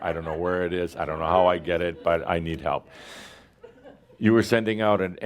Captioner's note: some chuckles